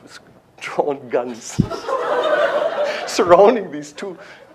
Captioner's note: laughter